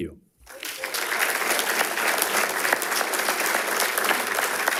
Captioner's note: attendees applauding